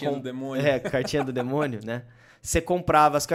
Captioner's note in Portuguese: risos